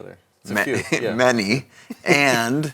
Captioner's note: laughs